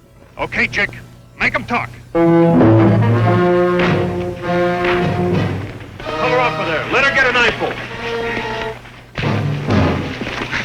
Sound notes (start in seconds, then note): 2.4 dramatic music; 4.8 hand slapping; 5.2 footsteps thudding; 8.8 dramatic music